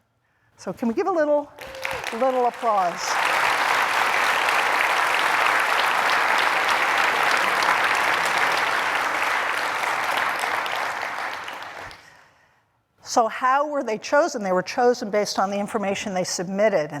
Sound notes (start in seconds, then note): 3.9 applause